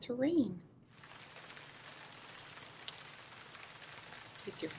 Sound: rain sounds

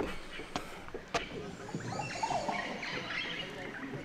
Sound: birds chirping

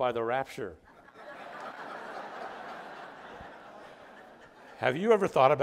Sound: audience laughing

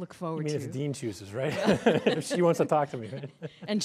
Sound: laughs

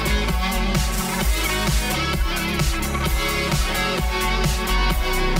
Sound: sparklers sizzling

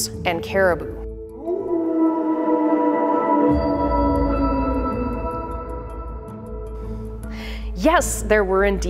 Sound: wolf calls

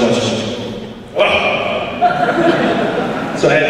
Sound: in deep voice

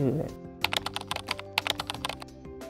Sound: typing on keyboard

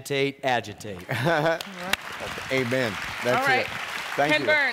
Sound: laughs

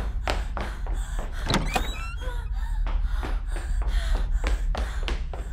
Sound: Sarah breathes heavily

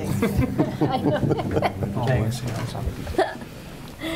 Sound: laughing

